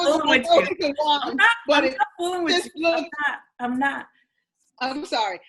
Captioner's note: laughs